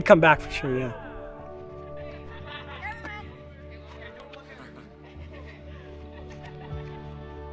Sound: jovial camp sounds

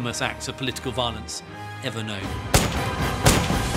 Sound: gunshots

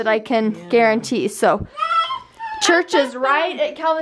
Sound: baby babbles

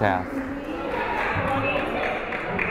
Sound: crowd chattering; fan applauding

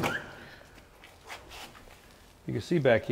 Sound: door opens

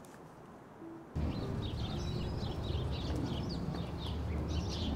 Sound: birds chirping

